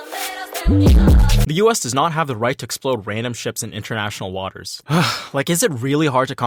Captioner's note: sigh